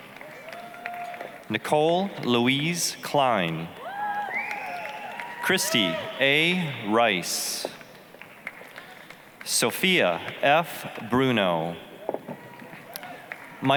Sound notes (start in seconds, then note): 0.0 applause, cheering; 3.8 applause, cheering; 7.6 applause; 12.3 applause, cheering